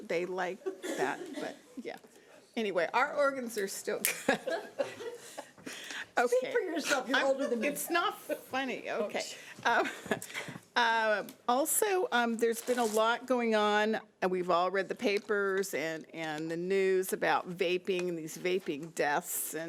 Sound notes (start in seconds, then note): 4.1 board members laughing; 10.6 laughs